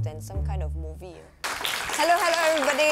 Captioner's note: applause